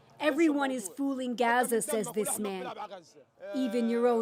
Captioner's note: speaking alternate language